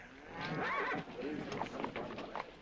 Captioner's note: horse neighing